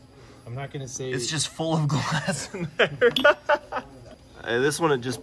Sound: laughs

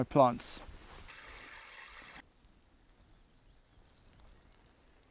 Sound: water trickling

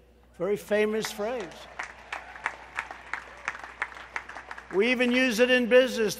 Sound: applause

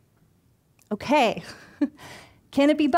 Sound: chuckling

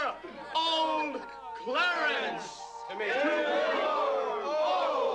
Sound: exclamations, laughter

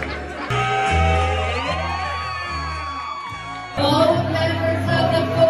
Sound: everyone cheering

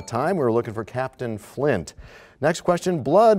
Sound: bell rings, time expires

